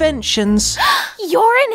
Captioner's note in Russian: вздох